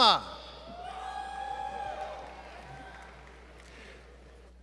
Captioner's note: applause